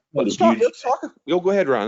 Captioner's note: audio distortion